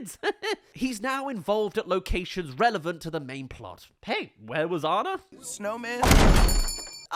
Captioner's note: slam